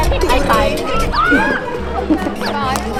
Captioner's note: wave